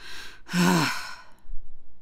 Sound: sighing

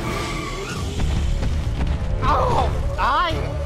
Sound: dramatic music; tires squealing; loud footsteps; moans of agony

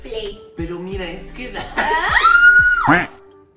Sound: scream

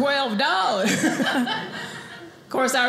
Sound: audience laughing

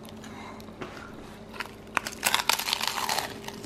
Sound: that crunch

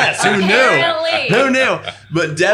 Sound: laughing

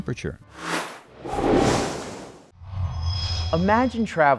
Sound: sound Effects

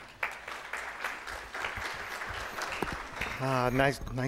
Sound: applause

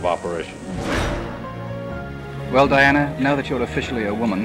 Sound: whoosh

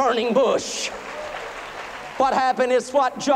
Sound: applause

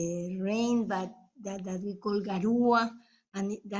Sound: speaking in foreign language

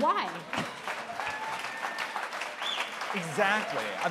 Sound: applause

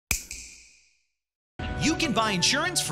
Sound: snap

